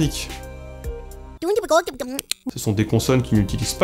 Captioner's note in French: parle en langue à clic